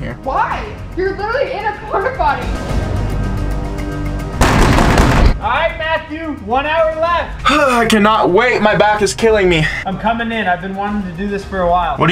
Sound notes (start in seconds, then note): 4.6 dramatic music; 7.6 sigh of relief